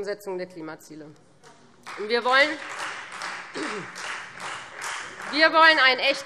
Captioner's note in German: Beifall Freie Demokraten